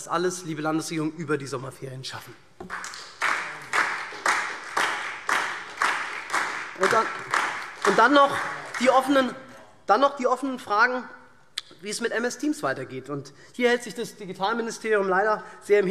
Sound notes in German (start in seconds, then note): 2.6 Beifall SPD und DIE LINKE